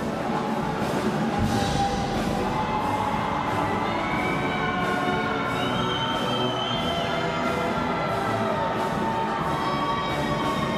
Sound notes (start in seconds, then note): 7.9 air horn; 7.9 cheers and applause